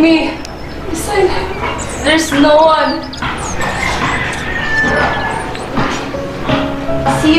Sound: crying

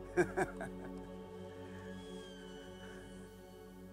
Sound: laughs

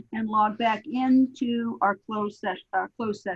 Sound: none

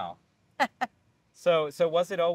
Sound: laughing

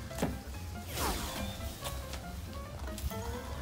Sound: playful music; whooshes

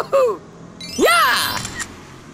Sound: clicks

